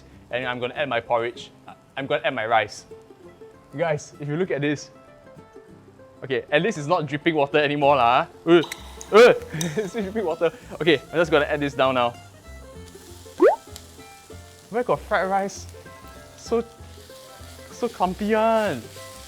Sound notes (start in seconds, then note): 13.4 bloop!